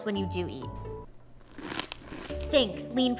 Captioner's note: teeth chomping